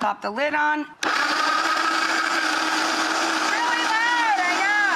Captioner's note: loud grinding